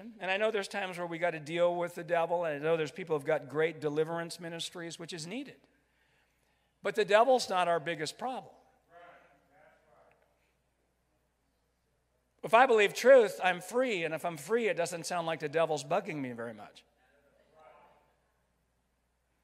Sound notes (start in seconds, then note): 9.7 crowd; 18.0 crowd